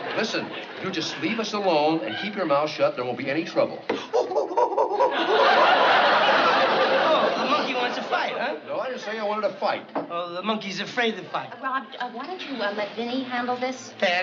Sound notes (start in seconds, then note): 3.9 imitating monkey